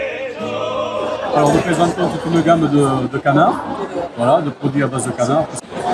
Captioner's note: crowd noise